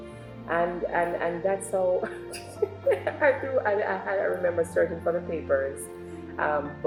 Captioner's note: laughs